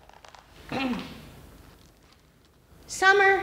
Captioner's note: clears throat